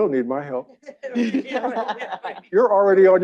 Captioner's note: audience laughing